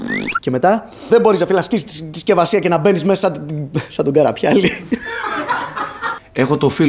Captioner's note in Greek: γέλια